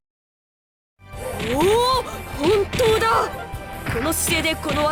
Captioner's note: impressed hum